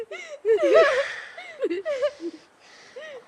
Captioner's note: crying